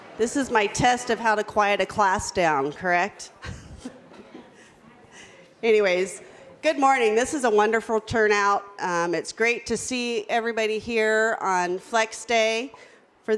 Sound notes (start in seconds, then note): 3.4 laughs